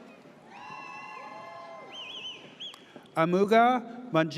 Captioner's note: audience cheers